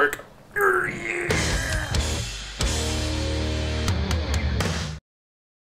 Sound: father grunts; rock music

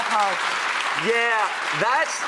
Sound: audience clapping

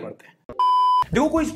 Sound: beep

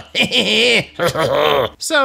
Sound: chortle; goblin snicker

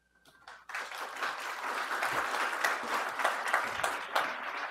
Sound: audience applauding

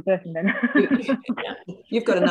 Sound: laughs

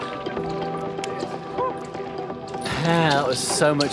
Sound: hands slap

